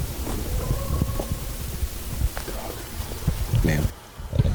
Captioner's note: coyote howls